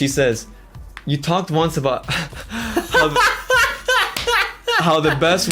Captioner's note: laughs